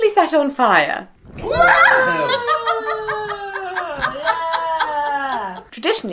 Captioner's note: exclamations; laughing